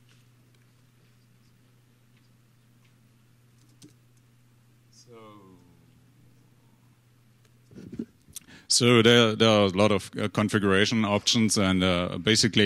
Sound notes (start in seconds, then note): 1.9 typing